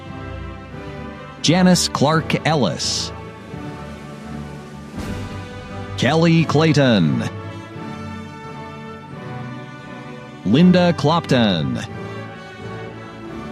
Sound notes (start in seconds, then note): none